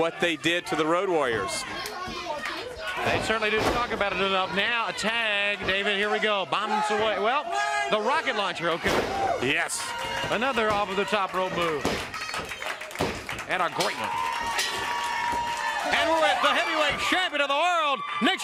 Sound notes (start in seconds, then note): 6.6 crowd cheering; 14.6 crowd cheering